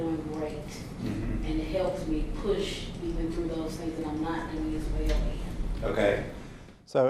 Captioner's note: softly talking off mic